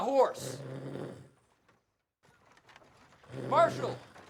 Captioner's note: Marshall snoring